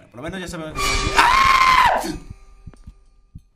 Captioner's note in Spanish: Grita